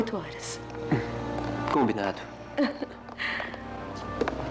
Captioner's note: footsteps Approaching